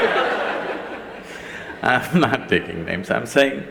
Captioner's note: laughter; laughs